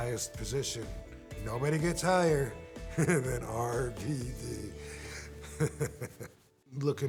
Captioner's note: laughs